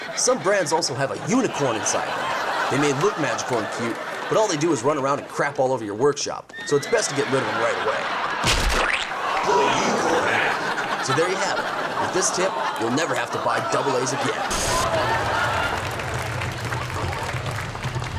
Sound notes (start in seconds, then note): 2.3 audience laughs; 9.8 deep Voice; 15.0 audience applauds